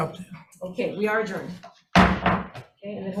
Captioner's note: gavel banging